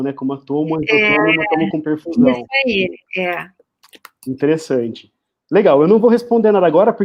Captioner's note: multiple voices